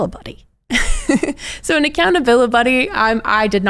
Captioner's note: chuckles